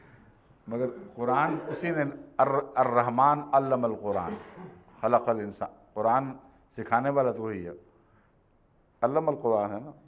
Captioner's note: Arabic